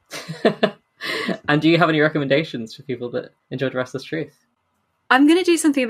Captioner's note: laughs